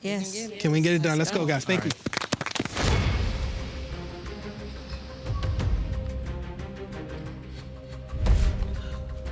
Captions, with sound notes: - Can we get it done? Let's go, guys, thank you. [all applauding] [dramatic music]